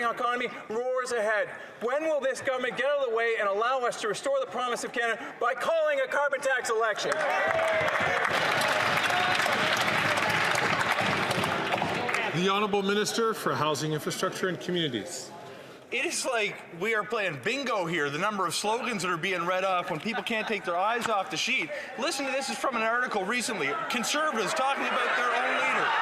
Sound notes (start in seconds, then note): 12.6 some Applause